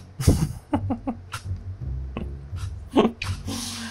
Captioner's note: laughing